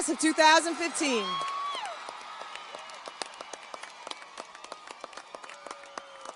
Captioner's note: audience cheers and applauds